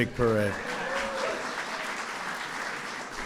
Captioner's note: applause